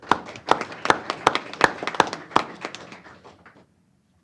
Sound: applause

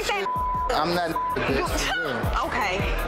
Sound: beep

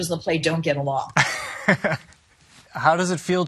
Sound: laughs

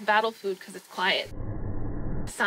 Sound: whoosh

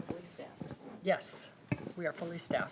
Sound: group chatter

